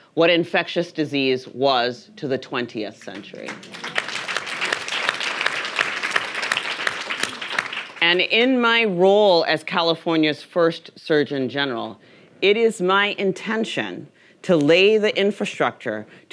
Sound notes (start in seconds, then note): 3.0 audience applauding